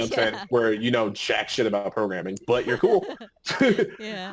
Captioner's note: laughing; laughing